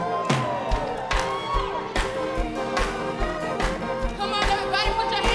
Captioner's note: clapping